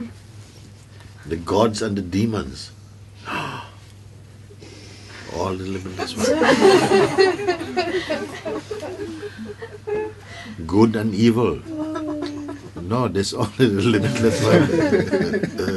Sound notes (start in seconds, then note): 3.8 gasps; 7.4 laughter